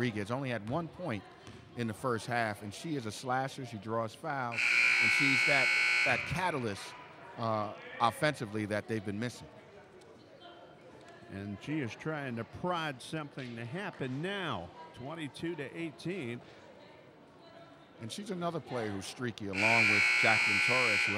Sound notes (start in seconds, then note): 4.5 buzzer dings